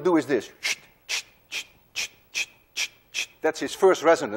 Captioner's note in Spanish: Hace sonidos silbante